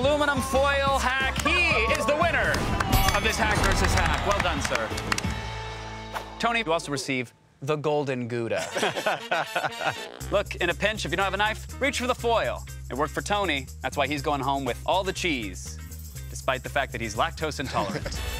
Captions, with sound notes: He is the winner of this Hack vs. Hack. [ Applause ] Well done, sir. Tony, you also receive the Golden Gouda. [ Laughs ] Look, in a pinch, if you don't have a knife, reach for the foil. It worked for Tony. That's why he's going home with all the cheese, despite the fact that he's lactose-intolerant.